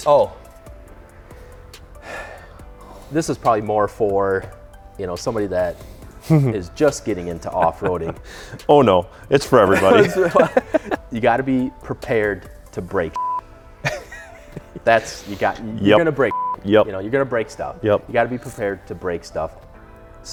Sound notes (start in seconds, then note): 9.6 laughs; 13.1 beeps; 16.3 beeps